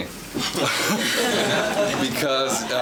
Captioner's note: laughing